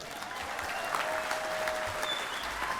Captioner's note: applause